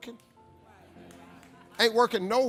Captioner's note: audience agreeing